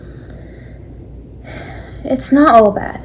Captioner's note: deep breath